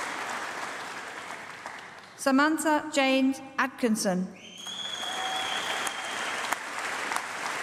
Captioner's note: applause